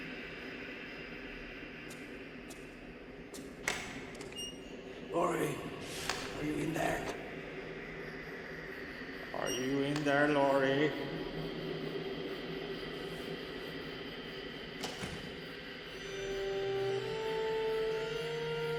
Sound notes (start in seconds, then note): 14.8 door closes; 16.1 eerie music